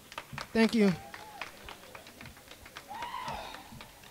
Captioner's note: crowd clapping